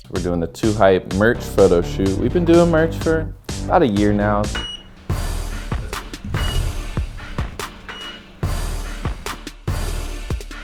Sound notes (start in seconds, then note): 4.5 beeps; 4.6 upbeat music